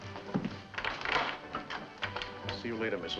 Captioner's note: door unlocking